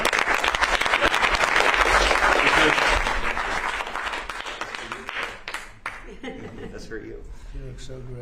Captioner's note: applause